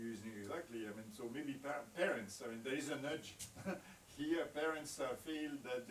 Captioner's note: chuckles